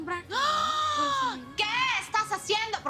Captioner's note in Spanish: Grito ahogado